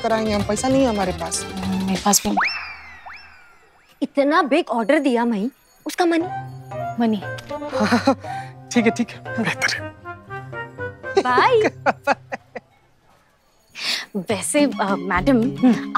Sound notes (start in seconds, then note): 11.1 laughing